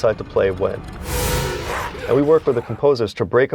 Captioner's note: eerie sound